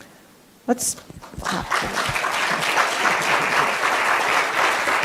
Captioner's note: audience applauds